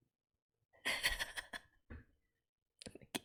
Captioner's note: laughs